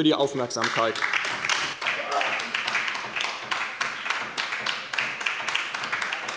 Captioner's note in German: Beifall bei der LINKEN